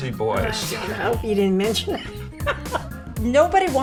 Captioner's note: laughs